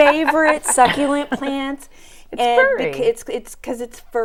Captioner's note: laughing